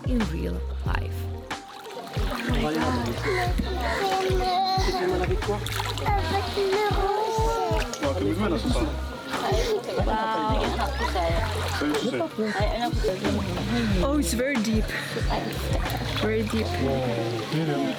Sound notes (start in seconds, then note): 2.5 water splashing; 5.3 group chattering